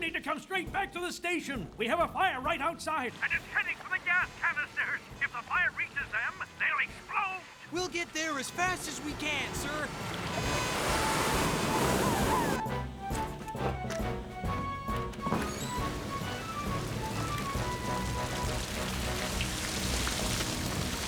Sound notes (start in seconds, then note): 10.3 sirens Wailing; 12.6 heroic Music; 16.9 fire Crackles